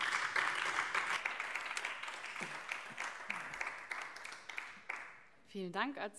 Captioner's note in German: Beifall BÜNDNIS 90/DIE GRÜNEN